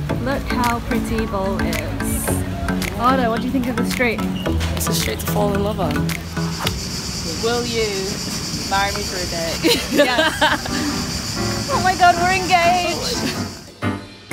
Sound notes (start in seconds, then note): 9.6 laughs loudly